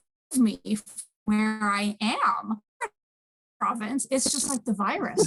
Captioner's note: audio distortion